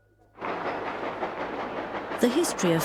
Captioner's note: train clacking